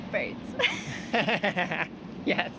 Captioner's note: laughing